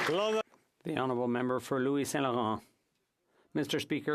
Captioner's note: applause